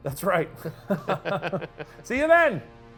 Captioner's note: both chuckling